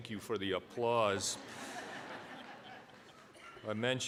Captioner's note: audience laughing